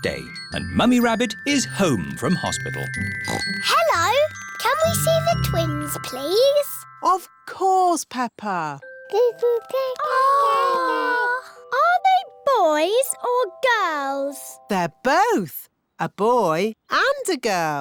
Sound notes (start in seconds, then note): 3.2 oinks; 10.0 babies gurgle